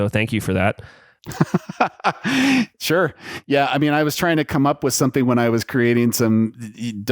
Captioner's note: laughs